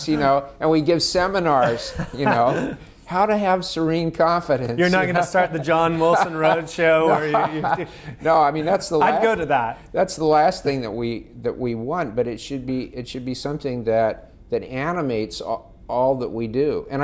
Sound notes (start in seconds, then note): 4.4 laughing; 8.4 laughing